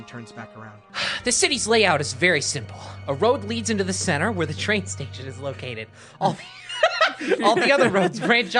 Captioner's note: laughs